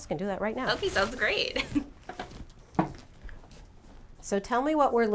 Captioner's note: chuckles